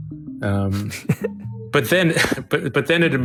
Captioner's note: chuckling